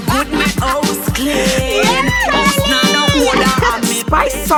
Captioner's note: upbeat music; laughing